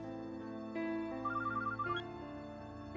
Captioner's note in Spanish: suena el celular